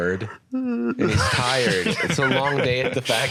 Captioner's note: yawns